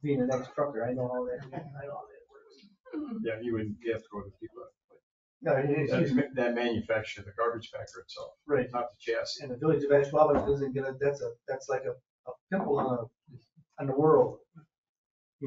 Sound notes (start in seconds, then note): 4.6 speaks distantly